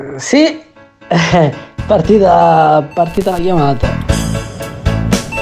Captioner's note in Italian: risate